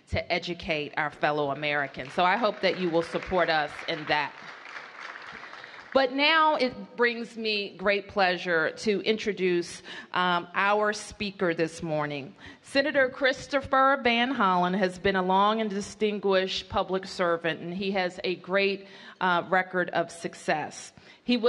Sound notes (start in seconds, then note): 4.8 applause